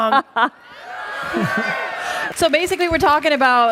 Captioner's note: cheering